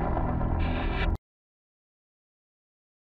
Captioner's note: loud static